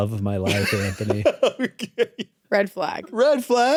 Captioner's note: laughs